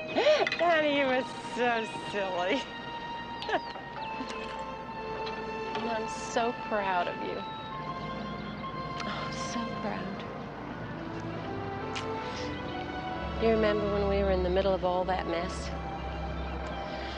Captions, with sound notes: - (chuckles) Barney, you are so silly. (chuckles) And I'm so proud of you. So proud. You remember when we were in the middle of all that mess?